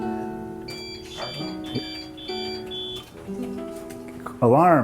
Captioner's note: alarm going off in the background